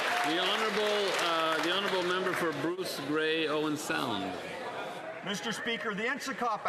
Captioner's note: some Applause